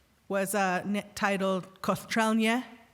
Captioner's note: speaking indigenous language